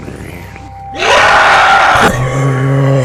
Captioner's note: groaning; zombie Screeching; groaning